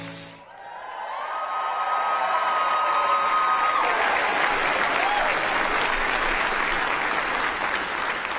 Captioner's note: applause